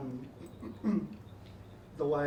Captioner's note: clears his throat